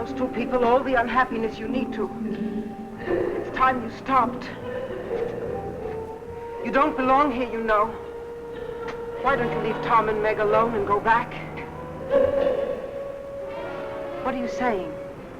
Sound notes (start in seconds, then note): 12.0 faint muffled chatter